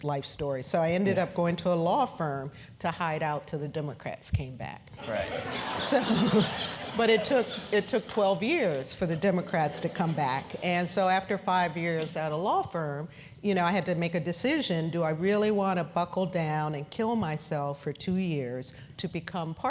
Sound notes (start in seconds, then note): 6.2 laugh